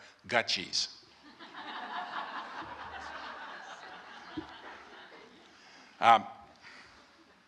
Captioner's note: laughter